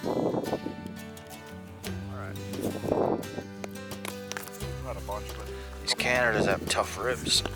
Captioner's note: wind noises